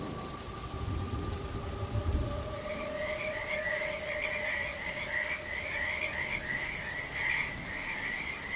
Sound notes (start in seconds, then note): 0.0 lightning crashing; 0.0 thunder rumbling; 2.7 eerie music; 2.7 rain pattering